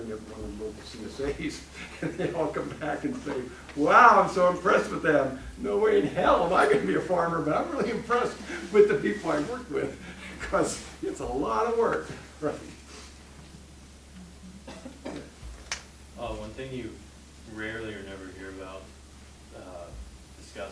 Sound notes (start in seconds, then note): 1.3 laughing